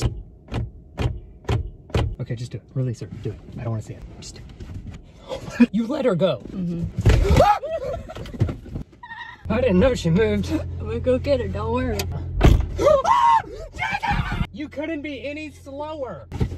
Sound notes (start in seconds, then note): 1.4 head knocking; 7.3 laughing; 9.0 screaming; 12.4 door closing; 12.8 screaming